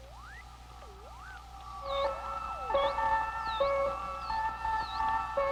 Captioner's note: equipment beeping